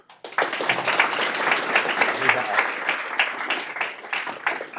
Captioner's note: audience applauding